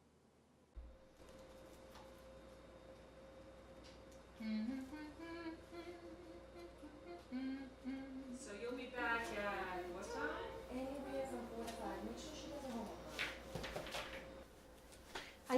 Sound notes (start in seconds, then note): 4.9 humming